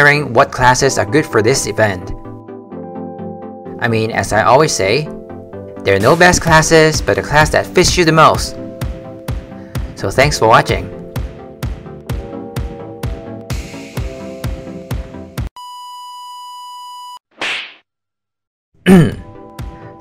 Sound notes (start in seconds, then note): 15.6 beeeeeeep